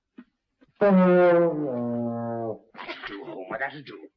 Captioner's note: horn moaning